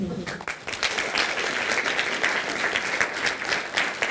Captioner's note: audience applauding